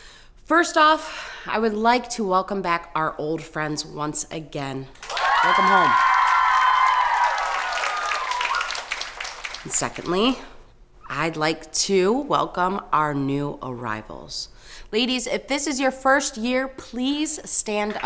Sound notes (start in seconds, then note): 4.9 campers applauding; 5.0 campers cheering